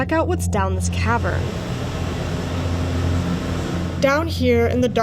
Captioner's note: fans whirring